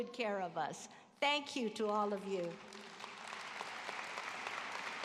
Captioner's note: applause